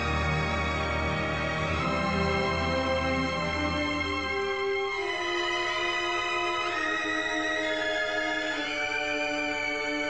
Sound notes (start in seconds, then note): none